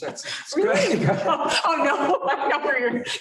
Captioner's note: laughter